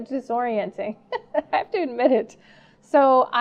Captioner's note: laughing